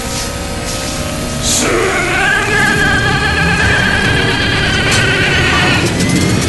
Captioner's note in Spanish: motor arrancando; Dominic grita; motor arrancando